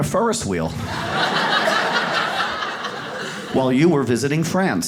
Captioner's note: audience laughs